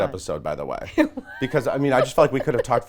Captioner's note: laughs